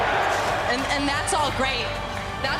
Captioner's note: crowd cheering